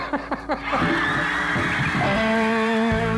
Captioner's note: laughs; crowd cheering